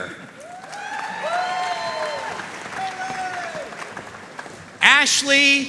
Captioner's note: audience cheering and applauding